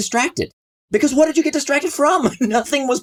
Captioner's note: laughs